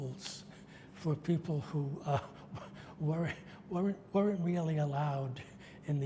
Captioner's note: laughs